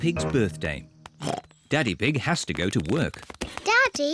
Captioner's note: oinks